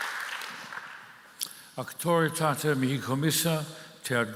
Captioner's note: applause